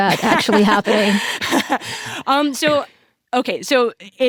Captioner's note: laughs